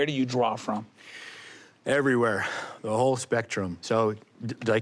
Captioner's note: exhales